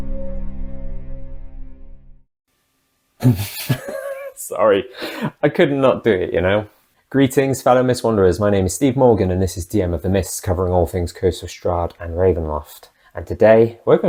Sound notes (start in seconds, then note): 3.2 laughs